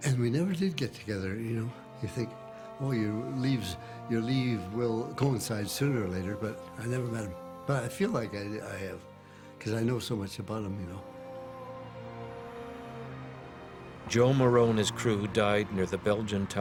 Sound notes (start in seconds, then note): 9.7 mournful choral singing; 12.9 voiceover